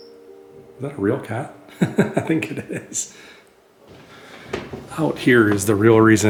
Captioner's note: laughter